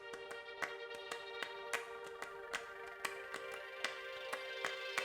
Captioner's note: hands clapping